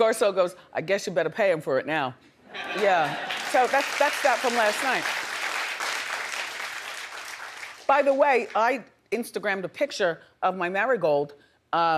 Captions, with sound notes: Garcelle goes, "I guess you better pay him for it now." Yeah, so that's that from last night. (audience clapping) By the way, I Instagrammed a picture of my marigold.